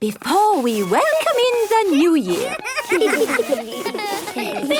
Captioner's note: laughter